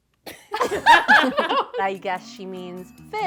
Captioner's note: friends laugh